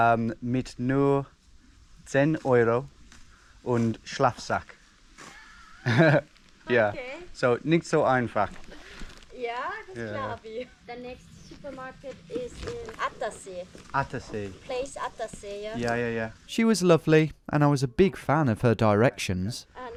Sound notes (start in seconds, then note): 5.3 both laugh; 9.9 speaks in foreign language